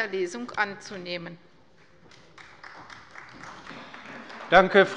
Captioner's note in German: Beifall bei der CDU